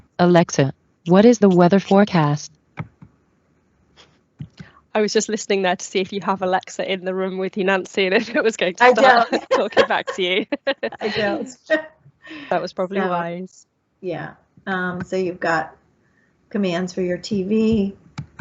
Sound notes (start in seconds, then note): 8.8 laughs